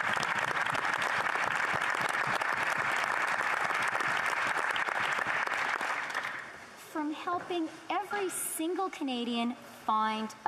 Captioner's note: applause